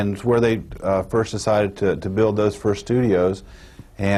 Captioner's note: none